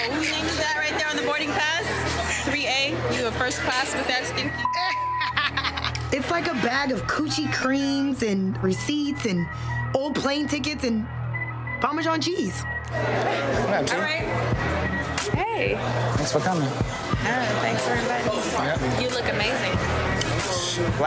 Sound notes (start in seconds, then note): 4.4 beep; 4.7 laughing